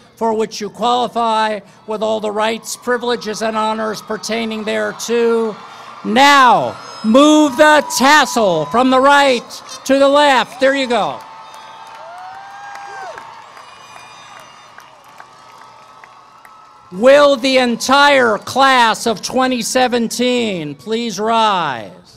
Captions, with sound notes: for which you qualify with all the rights, privileges, and honors pertaining thereto. Now, move the tassel from the right to the left. There you go. [ Cheering ] Will the entire class of 2017 please rise.